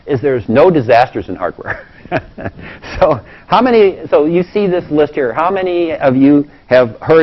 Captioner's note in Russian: смеется